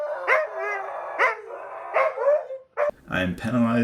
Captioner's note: howling